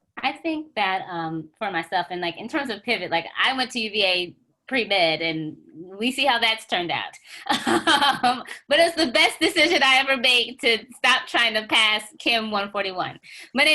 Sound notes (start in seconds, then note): 7.4 laughs